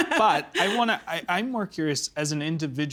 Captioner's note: laughing